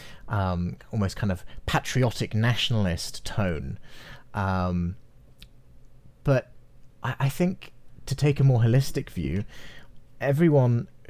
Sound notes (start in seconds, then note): none